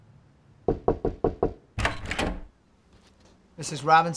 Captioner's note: knocking